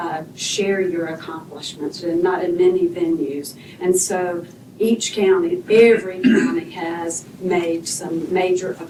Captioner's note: clears throat